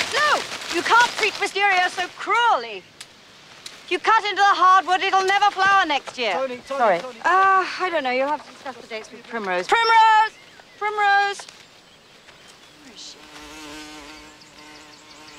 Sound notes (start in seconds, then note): 13.0 insect buzzing